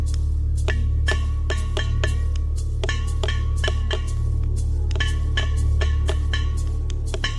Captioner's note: clattering sounds